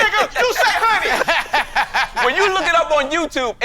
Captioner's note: men laughing